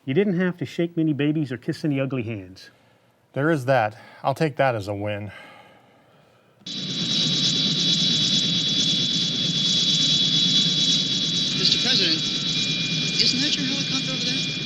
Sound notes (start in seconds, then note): 6.6 helicopter roaring